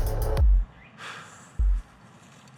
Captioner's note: labored sigh